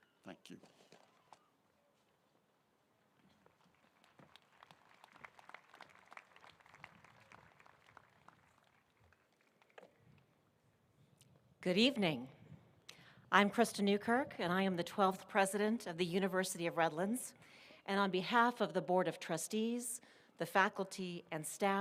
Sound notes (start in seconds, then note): 3.4 applause